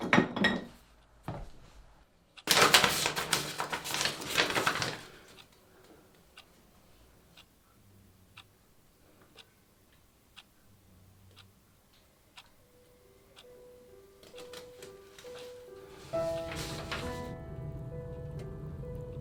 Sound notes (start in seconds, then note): 0.1 bottles clang; 7.4 clock ticking; 14.4 solemn piano music